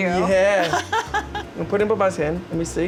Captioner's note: laughs